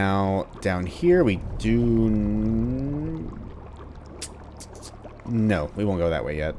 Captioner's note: thinking sounds